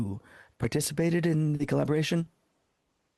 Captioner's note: speaking French